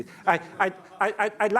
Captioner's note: laughing